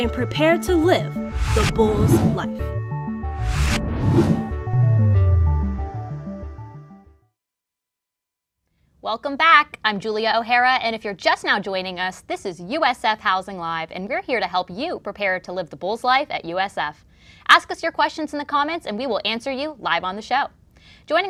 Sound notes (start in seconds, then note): 1.6 upbeat music; 1.6 wind whooshing; 3.4 upbeat music